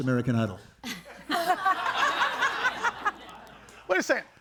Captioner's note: audience laughing